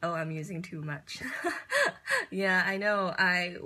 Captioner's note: laughs